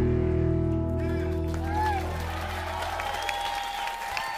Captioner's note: cheers & applause